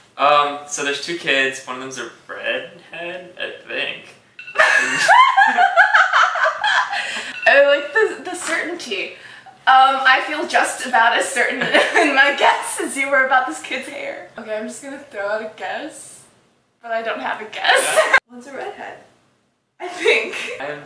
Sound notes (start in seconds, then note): 4.6 insane laughter